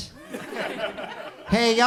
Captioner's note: audience chuckles